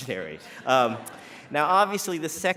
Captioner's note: laughter